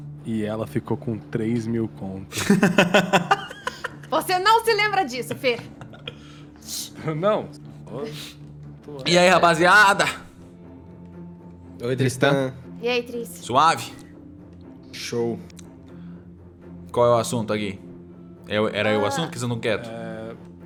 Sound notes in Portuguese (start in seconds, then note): 2.3 risos